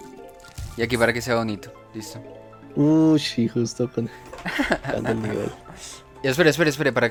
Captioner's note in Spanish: risas